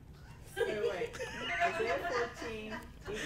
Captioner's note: hehehe